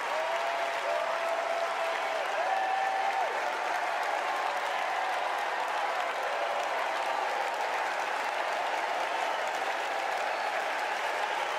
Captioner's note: cheers and applause